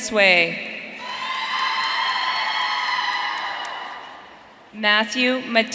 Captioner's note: audience cheering